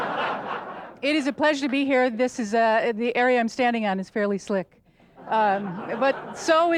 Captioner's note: audience laughter; laughter